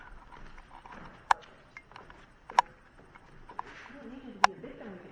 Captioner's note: camera clicking